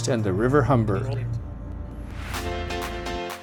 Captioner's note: faintly speaks; upbeat music